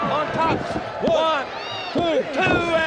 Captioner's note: countdown thudding